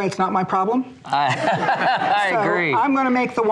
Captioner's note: laughter